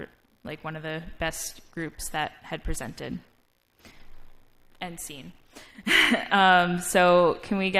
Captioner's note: laugh